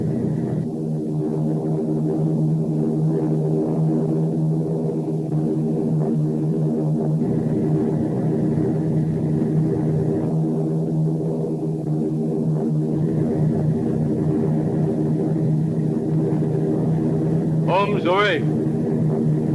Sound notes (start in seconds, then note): 0.8 plane engines revving